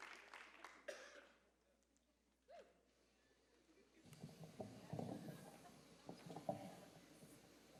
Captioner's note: applause